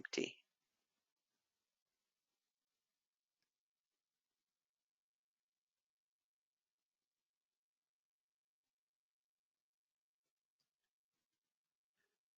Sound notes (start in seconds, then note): 0.4 10 seconds pause